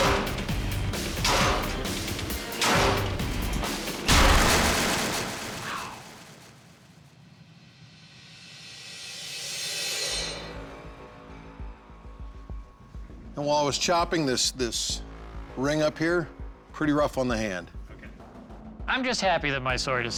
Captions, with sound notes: (WHISPERING) Wow. [suspenseful music] Now, while I was chopping, this-- this ring up here, pretty rough on the hand. OK. I'm just happy that my sword is still in one